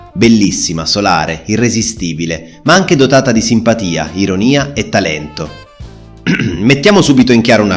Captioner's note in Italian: schiarire la voce